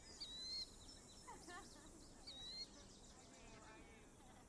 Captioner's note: distant laughter and chatter